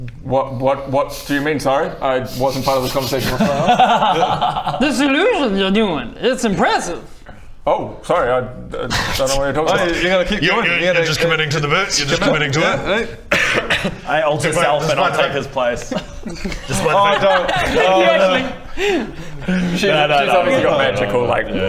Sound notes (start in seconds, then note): 2.6 awkward giggles